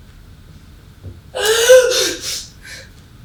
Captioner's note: gasp